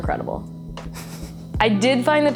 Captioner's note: laughs